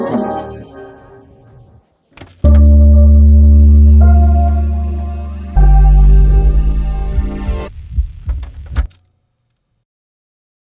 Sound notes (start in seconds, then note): 2.4 cerebral music; 6.0 heart beating; 8.7 player clicking